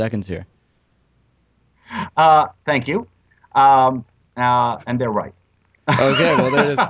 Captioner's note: laughs